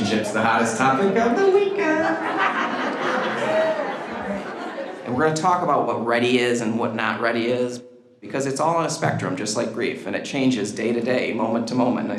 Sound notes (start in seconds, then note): 2.7 group laughs